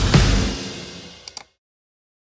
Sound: mouse click

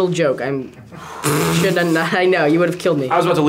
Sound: Asher blows raspberry

